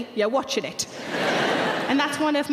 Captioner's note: audience laughing